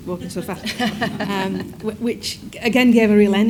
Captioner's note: audience laughs